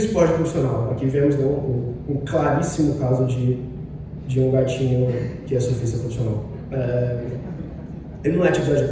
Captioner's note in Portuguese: risadas